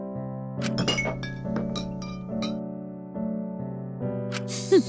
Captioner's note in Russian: Звон, звон!